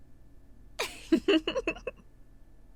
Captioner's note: giggling